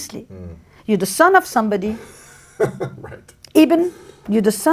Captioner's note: laughs